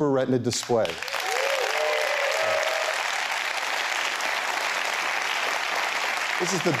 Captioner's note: applause